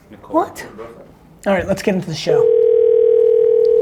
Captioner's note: phone ringing